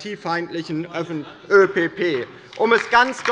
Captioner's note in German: Beifall bei der LINKEN